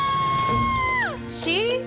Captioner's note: shrieking